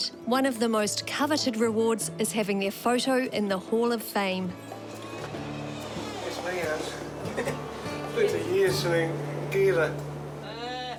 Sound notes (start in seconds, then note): 7.0 laughs